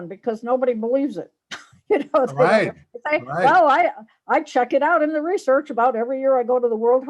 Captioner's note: laughs